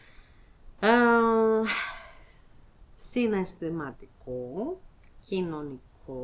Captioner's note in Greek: αναστενάζει